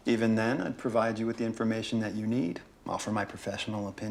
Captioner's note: none